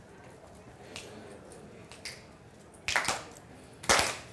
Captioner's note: audience murmuring; clapping